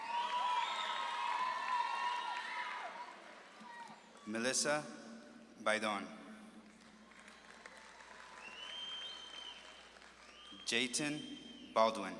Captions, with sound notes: (audience claps and cheers) Melissa Baidon. (audience claps and cheers) Jayton Baldwin.